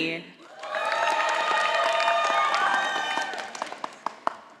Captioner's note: audience applauding